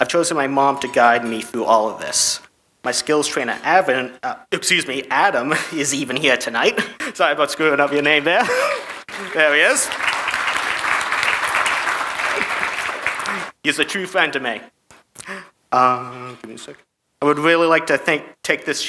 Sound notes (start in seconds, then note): 8.4 chuckles; 10.4 audience clapping